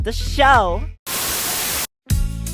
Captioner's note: Static